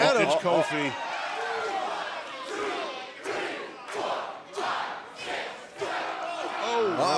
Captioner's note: crowd cheering